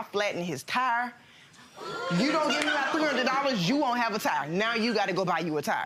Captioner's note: audience laughing